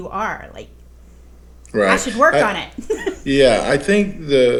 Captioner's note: laughs